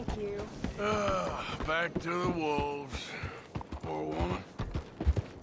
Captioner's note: sighs